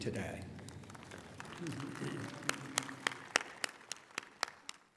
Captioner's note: applause